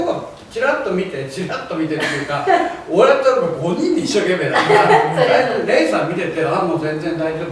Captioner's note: laughs